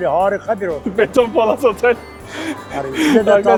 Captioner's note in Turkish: gülme sesleri